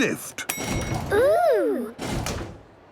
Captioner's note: lift pings